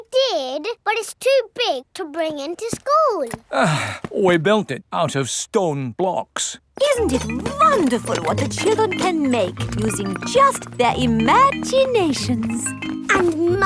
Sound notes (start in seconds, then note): 3.4 sighs